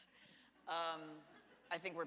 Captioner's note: audience laughs